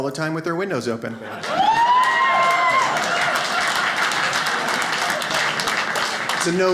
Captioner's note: audience cheers